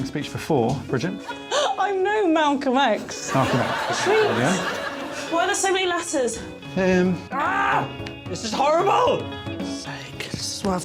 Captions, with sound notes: Have you made a stirring speech before, Bridget? [chuckles] I'm no Malcolm X. -Malcolm X. Brilliant. -Tweet. -Why are there so many letters? -Um... Ahh. This is horrible.